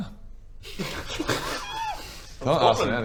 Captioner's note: sniggers